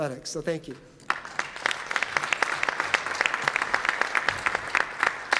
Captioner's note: audience applauds